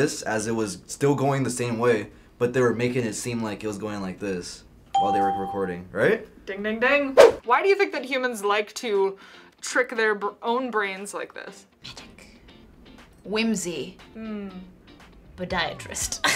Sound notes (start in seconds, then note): 4.9 ding; 11.8 whispers